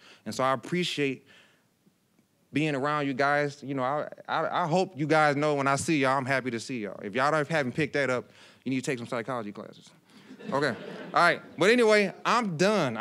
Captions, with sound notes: And so, I appreciate being around you guys. I hope you guys know when I see you, I'm happy to see y'all. If y'all already haven't picked that up, you need to take some psychology classes. (audience laughing) Okay, all right. But anyway, I'm done!